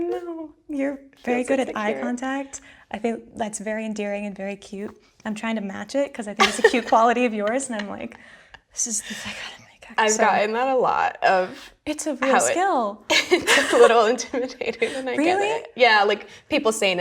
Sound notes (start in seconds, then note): 13.2 laughs